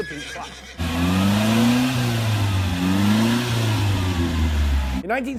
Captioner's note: engine humming